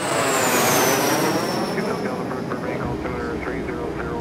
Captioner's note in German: Flugzeug-Geräusche